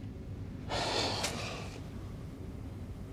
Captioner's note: sighs